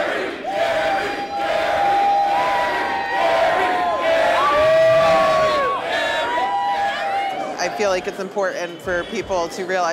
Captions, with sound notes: (people cheering) Gary, Gary, Gary! - I feel like it's important for people to realize